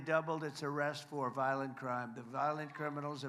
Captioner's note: applause